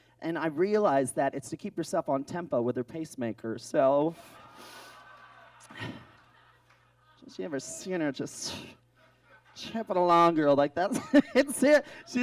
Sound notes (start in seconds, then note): 4.1 audience laughs